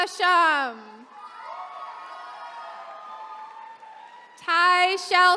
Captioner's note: attendees cheering